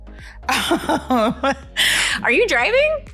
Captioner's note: laughing